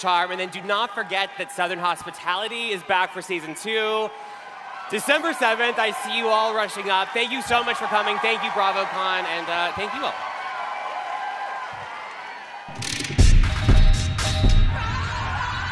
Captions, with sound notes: And then do not forget that "Southern Hospitality" is back for season 2 December 7th. I see you all rushing up. Thank you so much for coming. Thank you, BravoCon. And thank you all. [cheering] [audio logo]